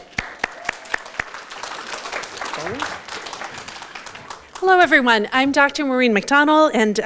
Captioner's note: audience Applause